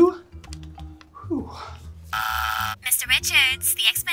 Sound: exhales loudly; phone buzzes; secretary Voice Over The Phone

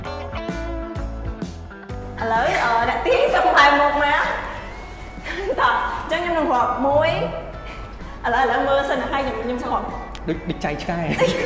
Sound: laugh

